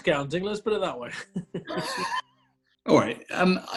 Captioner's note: chuckling